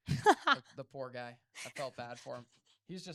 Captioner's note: laughing